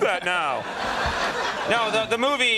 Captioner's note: audience laughing